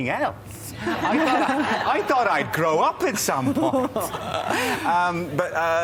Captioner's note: laughter